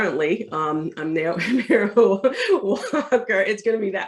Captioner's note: laughs